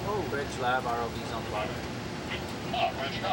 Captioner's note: indistinct chatter